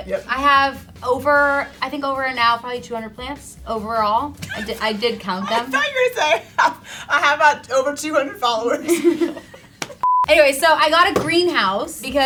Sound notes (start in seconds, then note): 4.4 laughs